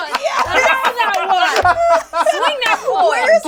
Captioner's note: all laugh